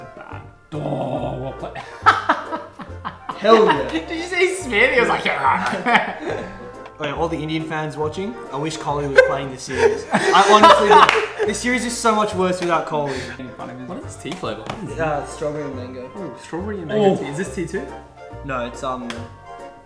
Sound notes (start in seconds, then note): 0.0 grunts; 1.6 laughs; 5.0 grunts